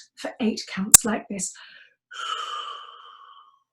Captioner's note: breathes out deeply